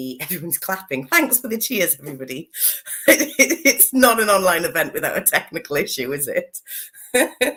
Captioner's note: laughs